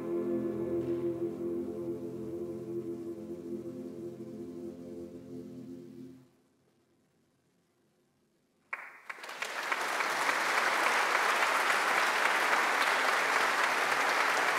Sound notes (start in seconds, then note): 1.2 singing in German continues; 8.7 audience applauding